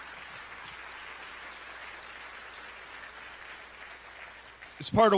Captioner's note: applause